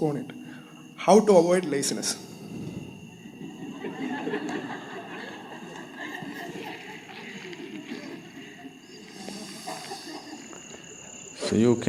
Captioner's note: laughter